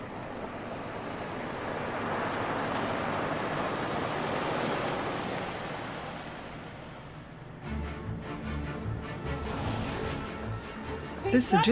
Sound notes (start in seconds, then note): 3.3 car tires humming; 7.6 upbeat whimsical music